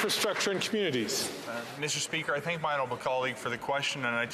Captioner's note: some Applause